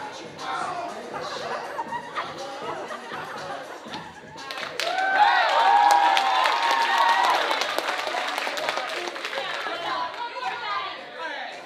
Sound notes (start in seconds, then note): 4.7 audience cheering